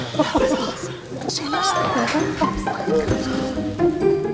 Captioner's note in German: aufgeregtes Plaudern